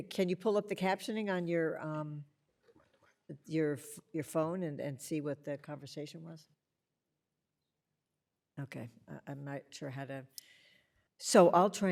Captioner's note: audio interruption